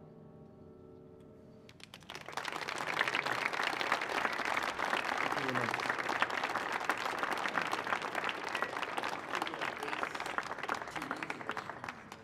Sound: applause

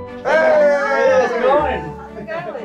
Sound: people cheering

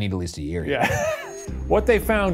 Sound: laughs

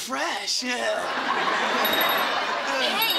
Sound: dinging

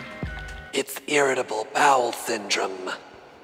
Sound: eerie voice

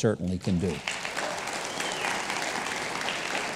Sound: applause

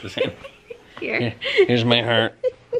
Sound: laughs

